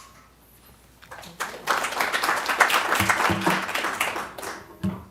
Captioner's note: applause